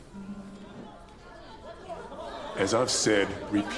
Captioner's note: people clamoring